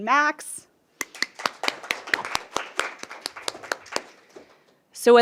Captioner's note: applause